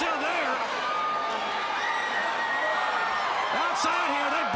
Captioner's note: crowd cheering